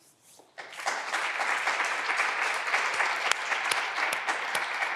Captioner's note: clapping continues